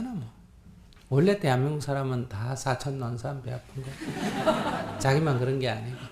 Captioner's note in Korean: 청중 웃음